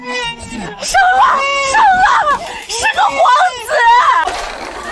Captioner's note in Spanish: Llanto del bebé